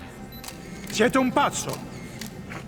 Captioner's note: cameras clicking